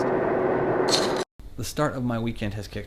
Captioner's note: shuffling noise